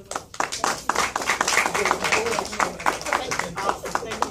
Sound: applause

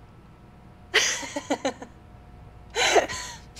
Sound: ominous Laughter

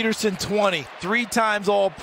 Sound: cheers and applause

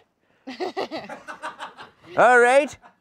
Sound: laughter

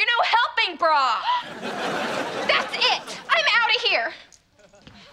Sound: gasping

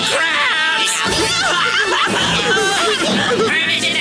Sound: crying

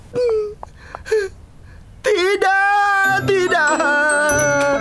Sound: cries

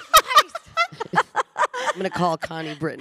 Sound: panelists laughing

